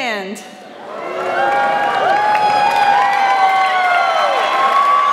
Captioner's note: audience cheering